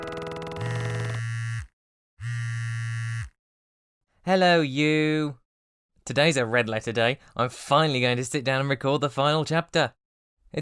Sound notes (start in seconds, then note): 0.0 outro music; 0.0 phone vibrating